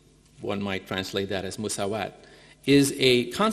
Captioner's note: speaking in foreign language